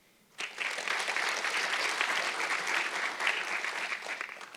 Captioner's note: audience clapping